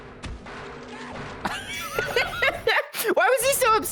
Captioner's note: both laugh